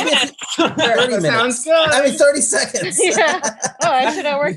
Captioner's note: laughs